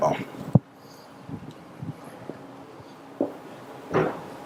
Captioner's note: shuffling